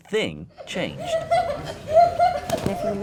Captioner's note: laughs